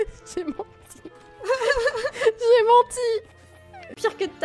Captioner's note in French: rires